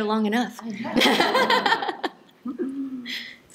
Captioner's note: laughter